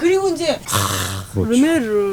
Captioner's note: hisses